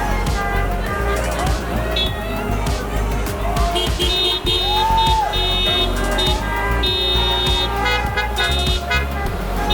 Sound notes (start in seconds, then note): 1.3 horns honking; 4.9 crowd cheers